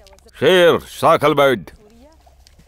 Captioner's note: Speaking in Arabic